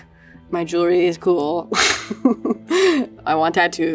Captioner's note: laughs